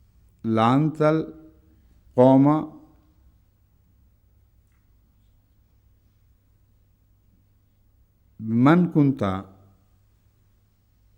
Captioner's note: Arabic